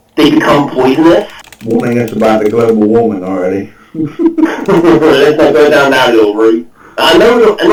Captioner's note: chuckles